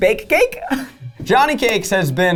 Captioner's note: laughs